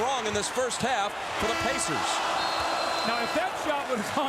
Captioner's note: horn blows